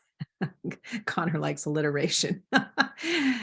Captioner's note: laughs